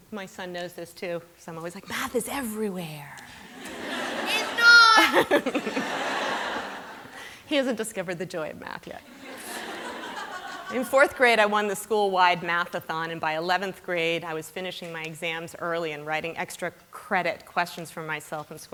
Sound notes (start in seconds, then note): 3.4 laughter